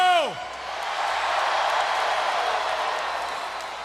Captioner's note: crowd cheers